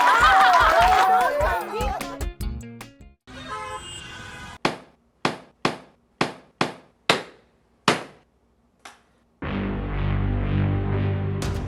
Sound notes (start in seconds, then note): 0.0 laughs; 0.1 sings; 3.3 car horn honks; 5.1 banging